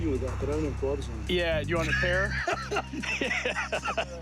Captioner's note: laughs